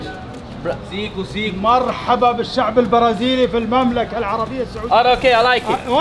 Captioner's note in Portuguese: Falas em árabe